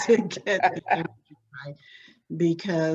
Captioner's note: laughs